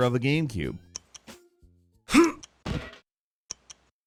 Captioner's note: Shrek grunting